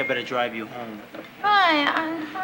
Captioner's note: slurring